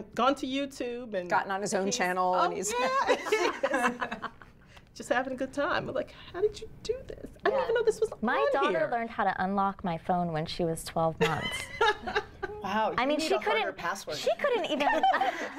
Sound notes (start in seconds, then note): 2.8 laughing